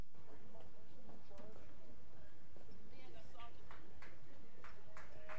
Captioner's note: people murmuring and applauding